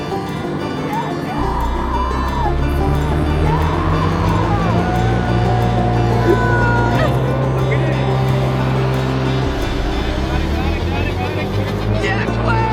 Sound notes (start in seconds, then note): 1.6 engine revving